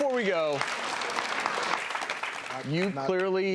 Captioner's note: clapping